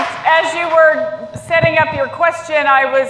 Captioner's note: applause